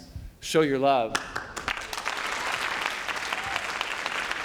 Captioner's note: applause